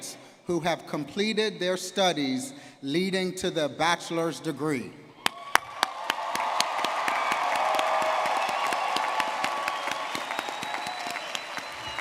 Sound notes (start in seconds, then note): 5.2 audience clapping and cheering